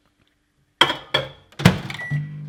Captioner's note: clanking; beeping